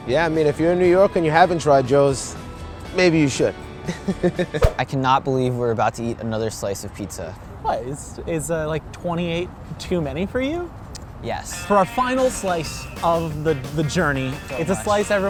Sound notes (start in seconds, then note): 3.7 chuckles